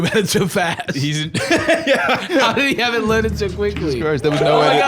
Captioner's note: laughing